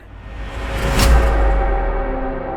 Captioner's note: thud!